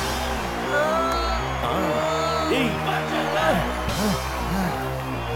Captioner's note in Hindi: तालियाँ